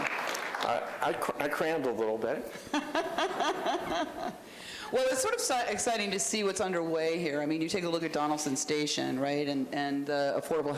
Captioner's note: applause